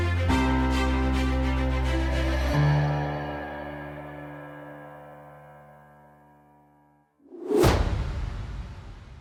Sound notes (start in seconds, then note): 7.4 thud